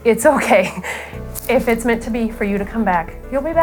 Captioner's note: laughs